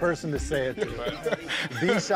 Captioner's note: laughs